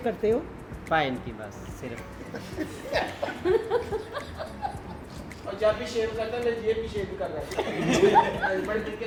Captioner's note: laughing uncontrolable